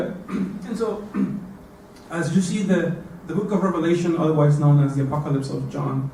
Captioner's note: cough